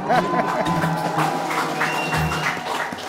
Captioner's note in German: Jubel, Applaus